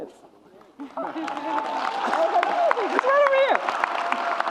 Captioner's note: audience cheers and applauds